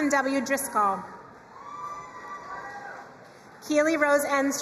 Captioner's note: crowd cheering and applauding